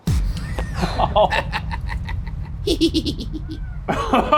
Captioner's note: laughs